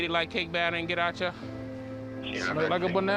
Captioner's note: dispatch radio chatter